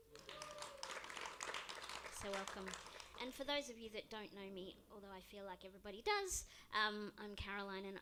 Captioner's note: applause